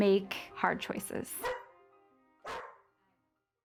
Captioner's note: dog Barking